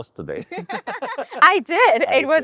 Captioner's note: laughing